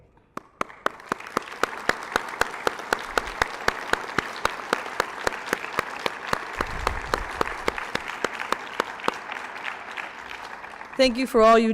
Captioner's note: applause